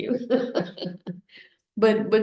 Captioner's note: laughs